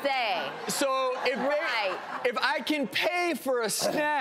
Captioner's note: audience laughs